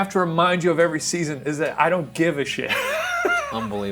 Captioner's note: laughs